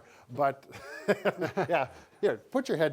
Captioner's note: laughing